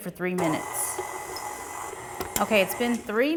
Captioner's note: mixer whirring